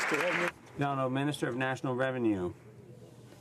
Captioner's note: some Applause